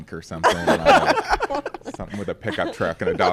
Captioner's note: laughs